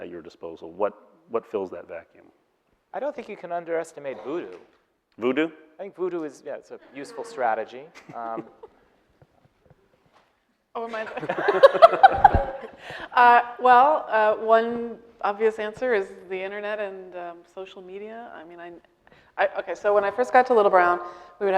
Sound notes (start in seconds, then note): 7.9 laughing; 10.8 all laughing